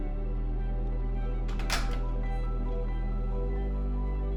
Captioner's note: door clicks open